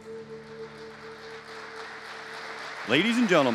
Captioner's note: audience applauding